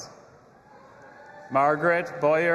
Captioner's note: audience applauding and cheering